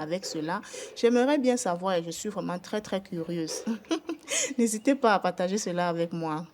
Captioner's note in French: rires